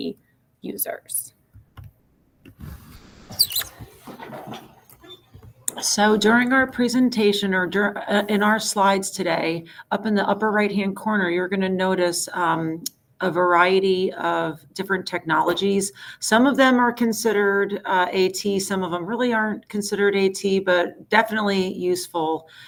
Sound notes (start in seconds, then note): 2.4 chair squeaks